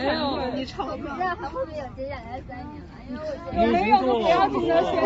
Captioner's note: crowd